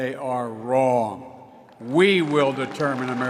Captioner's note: applause